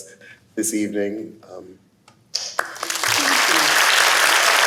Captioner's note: applause